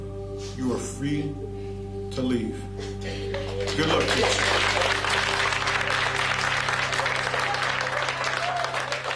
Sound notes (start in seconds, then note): 3.3 applause